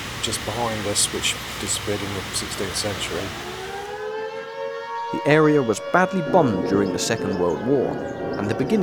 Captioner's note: air Raid Siren